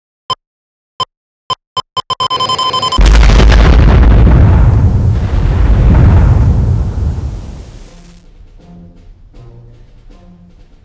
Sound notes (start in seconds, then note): 2.0 rapid beeping; 2.9 explosion